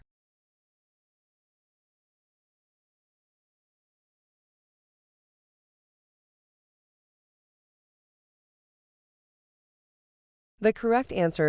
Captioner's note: no audio